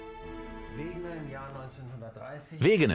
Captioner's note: speaking German